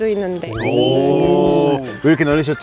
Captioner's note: surprised